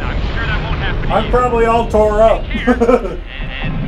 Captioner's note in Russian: смеётся